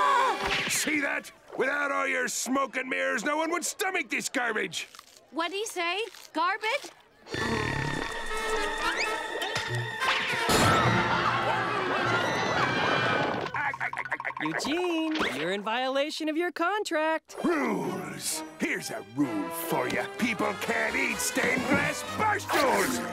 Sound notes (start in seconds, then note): 11.4 screaming; 13.0 laughing